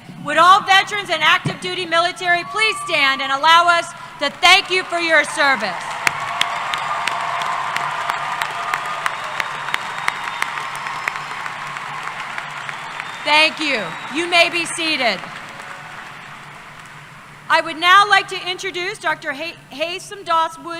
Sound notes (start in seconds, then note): 7.0 applause